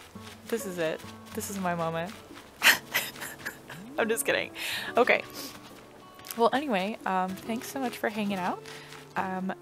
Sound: laugh

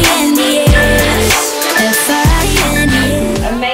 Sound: upbeat music; timer beeping

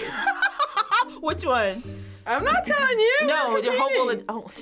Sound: laughing

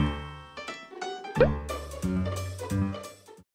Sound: splash splash

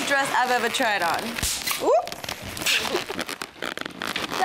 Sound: another balloon bursts

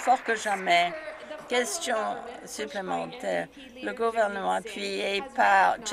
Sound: some Applause

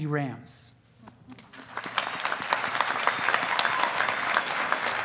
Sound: audience applauding

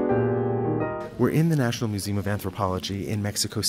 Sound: voiceover

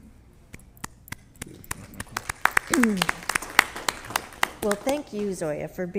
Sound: audience applause

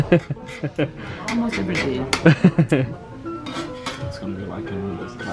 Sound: laughs

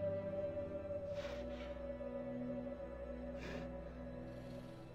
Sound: breathing heavily

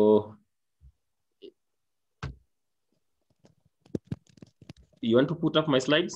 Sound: silence

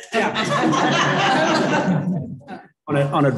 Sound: laughter

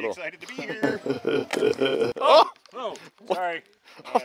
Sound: laughing

